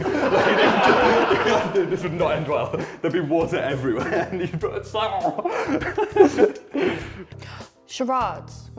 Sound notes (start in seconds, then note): 0.0 laughter; 5.2 laughter; 5.7 gargling; 6.2 gasps